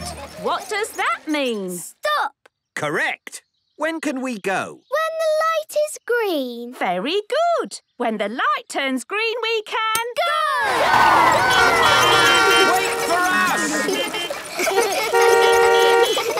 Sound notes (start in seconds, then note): 11.0 beeping; 13.5 laughter; 14.4 beeping